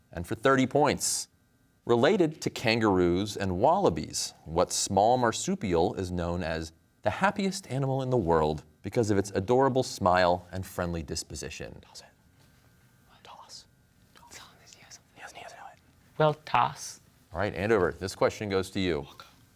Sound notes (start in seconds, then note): 12.1 whispers; 14.0 team whispering